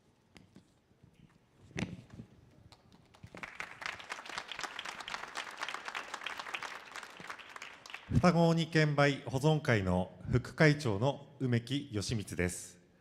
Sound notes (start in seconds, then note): 3.5 audience cheering; 8.2 speaking foreign language